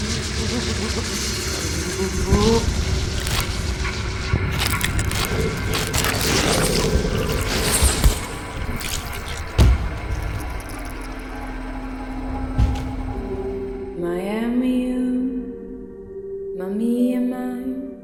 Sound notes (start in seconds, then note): 4.3 blood spurting; 8.1 body thuds; 9.6 intense music; 13.9 speaking in foreign language